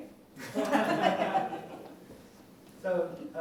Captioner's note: laughter